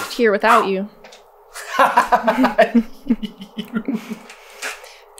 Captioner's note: laughter